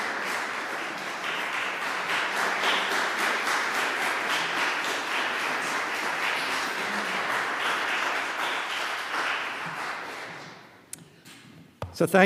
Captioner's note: applause